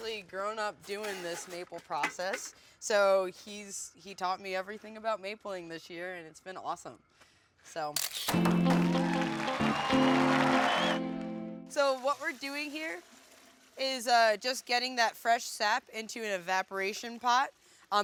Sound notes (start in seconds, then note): 8.0 shutter snapping; 8.4 crowd cheering